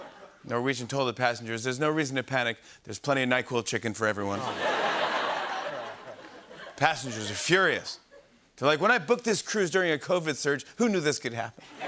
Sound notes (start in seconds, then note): 4.4 laughter